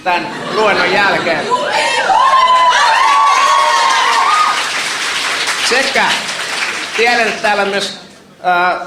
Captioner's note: laughter, cheers